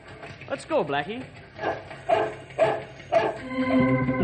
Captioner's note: dog barking